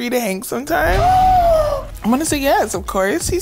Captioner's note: sighs